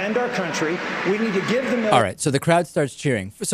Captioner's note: crowd cheering